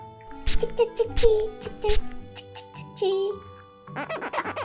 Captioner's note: spraying / Spraying / Spraying